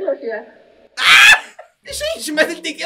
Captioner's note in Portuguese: grita